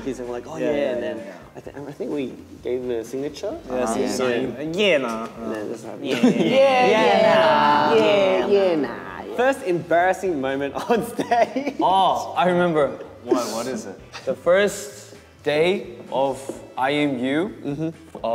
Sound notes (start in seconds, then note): 5.1 Australian accent